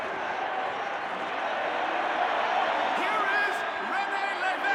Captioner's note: people cheering